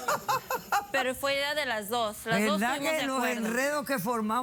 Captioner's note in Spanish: Carcajadas